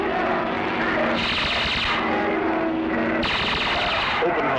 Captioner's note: astrogun firing